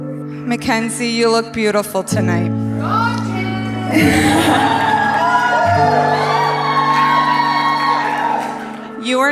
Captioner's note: girls wooo'ing